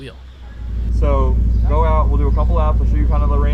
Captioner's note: engine revving